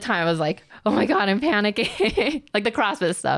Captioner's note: laughs